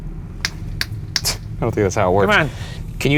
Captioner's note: snaps fingers